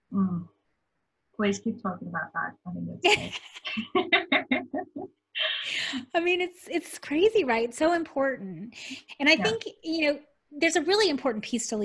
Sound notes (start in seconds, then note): 3.0 laughter